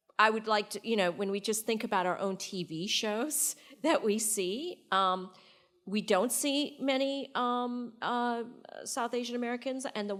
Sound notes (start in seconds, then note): none